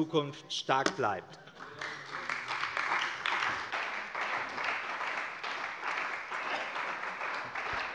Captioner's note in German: Beifall bei der CDU und dem BÜNDNIS 90/DIE GRÜNEN